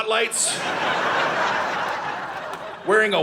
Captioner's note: audience laughing